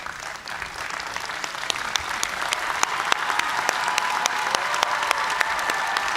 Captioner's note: cheers and applause